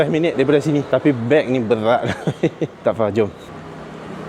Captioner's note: laugh